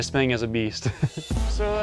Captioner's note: laughs